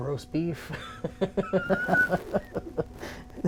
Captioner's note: laughing